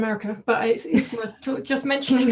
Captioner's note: laughing; laughs